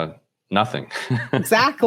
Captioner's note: laughs